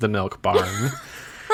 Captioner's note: laughs